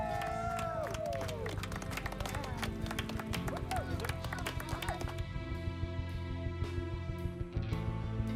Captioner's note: cheers and applause